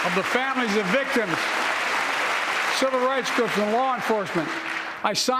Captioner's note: applause